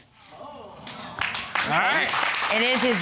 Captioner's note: audience exclaiming and applauding